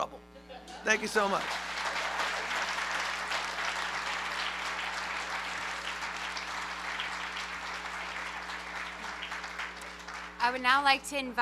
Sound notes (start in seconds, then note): 0.4 laughter; 1.9 applause